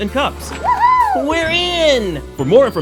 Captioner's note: giggling